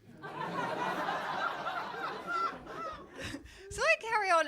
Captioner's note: crowd laughing